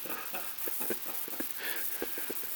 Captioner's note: Murrow, laughing